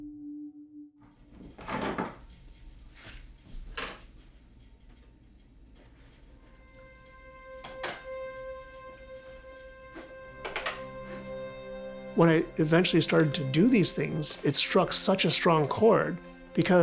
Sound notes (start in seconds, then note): 1.3 objects clattering; 6.5 pensive music